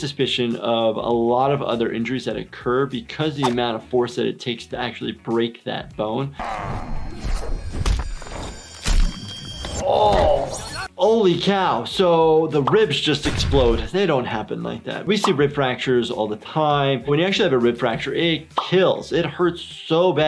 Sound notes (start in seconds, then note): 6.4 grunting; 7.6 slamming and crunching noises